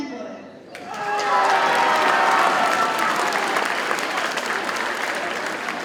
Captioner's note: audience cheers and applauds